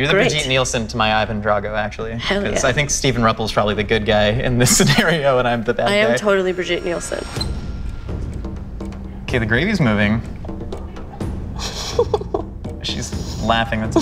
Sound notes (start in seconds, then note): 7.4 dramatic music; 11.6 laughter